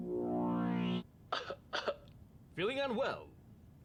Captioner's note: upbeat electronic music; man coughs